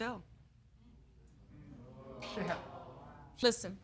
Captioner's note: audience react